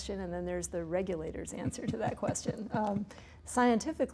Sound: laughs

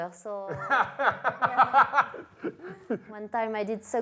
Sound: laughs

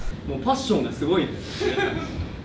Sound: laughs

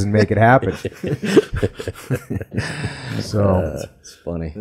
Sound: laughs

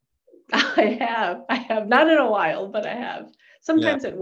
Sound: chuckling

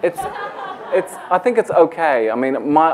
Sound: laughter

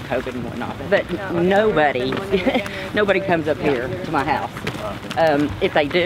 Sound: chuckles

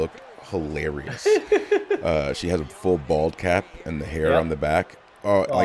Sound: laugh

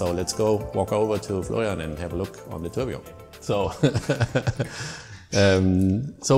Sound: laughter

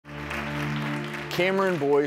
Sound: clapping

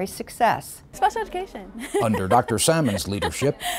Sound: laughs

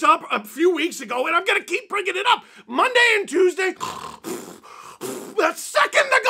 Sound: snoring

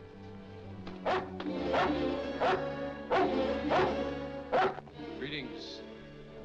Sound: ominous music; dog barks

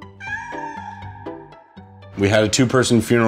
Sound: cat meows

